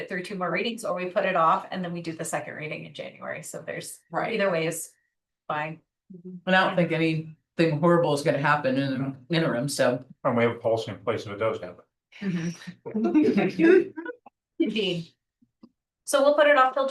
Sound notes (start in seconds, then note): 12.2 laughs